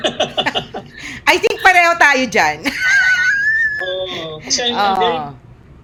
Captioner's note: laughter; laughter